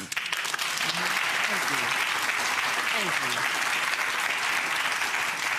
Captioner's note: clapping